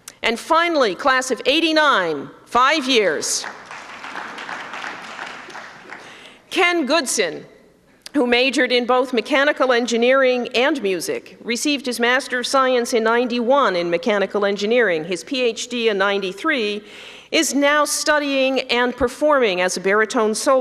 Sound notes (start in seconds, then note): 3.4 applause